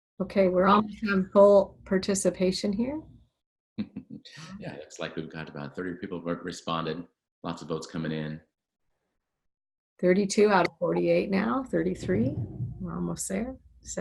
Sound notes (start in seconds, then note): 3.8 laughs